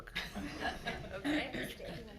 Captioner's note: everyone laughing